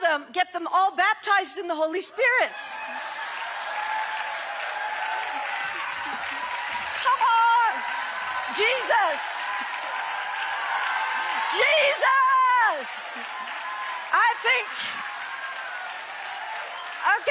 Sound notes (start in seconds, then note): 2.6 audience cheering